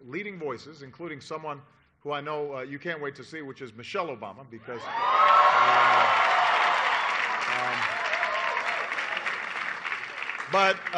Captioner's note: applause